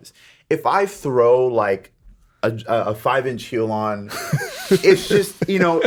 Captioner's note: Justin laughs